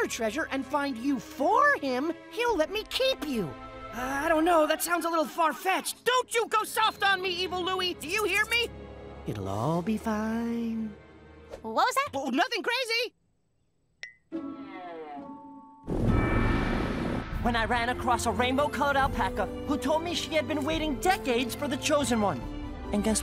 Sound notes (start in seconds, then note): 16.1 engine roars